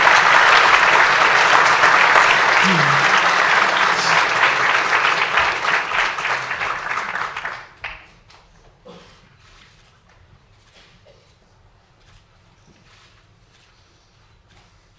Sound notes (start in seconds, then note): 9.5 applause